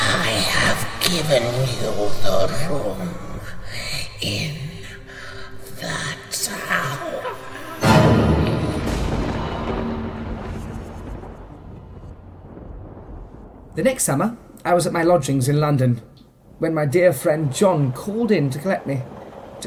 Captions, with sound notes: I have given you the room in the tower! [Thunder] The next summer I was at my lodgings in London when my dear friend John called in to collect me.